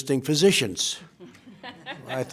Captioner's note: laughter